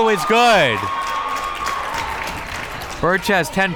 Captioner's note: crowd members cheering